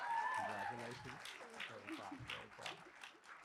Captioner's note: laughter